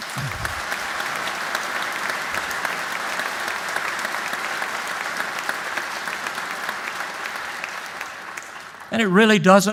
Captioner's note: applause